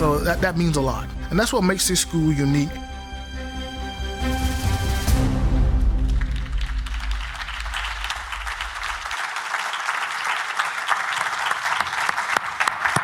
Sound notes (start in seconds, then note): 3.4 upbeat music; 6.0 everyone applauding